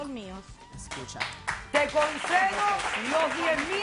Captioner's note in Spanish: Aplausos